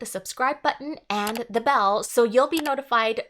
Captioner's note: mouse clicking